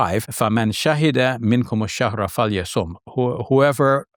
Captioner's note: speaks in foreign language